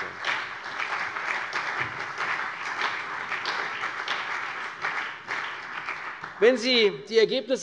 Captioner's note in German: Beifall CDU und BÜNDNIS 90/DIE GRÜNEN